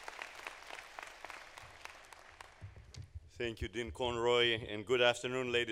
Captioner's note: applause